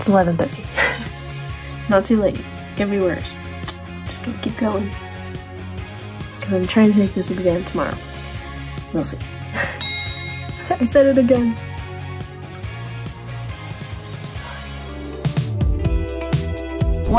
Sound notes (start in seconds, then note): 0.0 upbeat music; 0.7 chuckles; 10.0 chuckles; 15.4 upbeat music